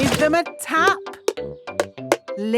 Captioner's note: taping